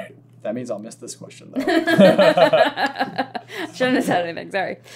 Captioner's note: laughter